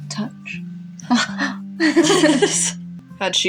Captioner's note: both gasp, then laugh